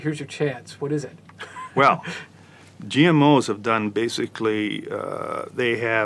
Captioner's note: laugh